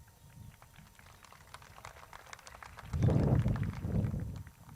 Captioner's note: crowd claps